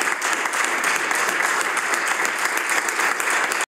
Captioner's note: some Applause